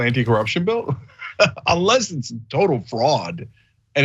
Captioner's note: laugh